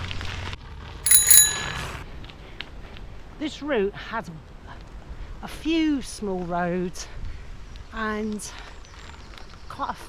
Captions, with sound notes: [Bell Ring] This route has a few small roads and quite